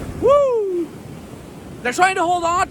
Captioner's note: whooping